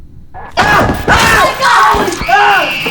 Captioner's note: moaning; screaming